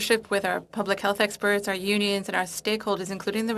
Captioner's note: speaking French